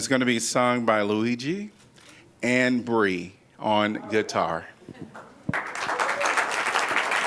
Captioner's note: applause